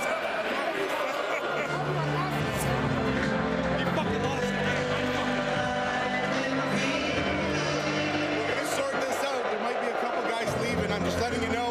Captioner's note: crowd Noise